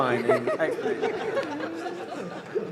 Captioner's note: laughter